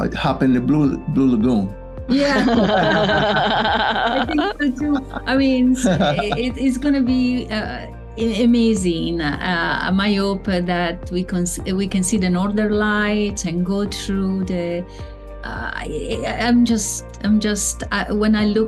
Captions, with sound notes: - Hop in the blue lagoon. - Yeah. (all laughing) I think, I mean, it is gonna be amazing. My hope that we can see the Northern Lights and go through the, I'm just, when I look